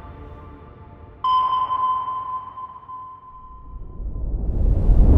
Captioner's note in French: Son d'un sonar